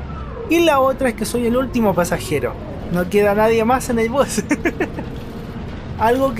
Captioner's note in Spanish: risas